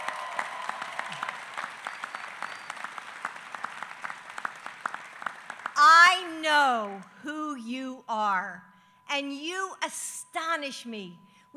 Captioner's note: applause